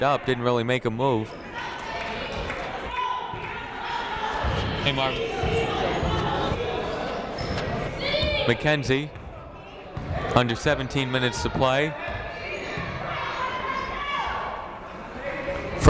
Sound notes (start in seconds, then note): 1.4 people shouting in the crowd; 12.5 people shouting in the crowd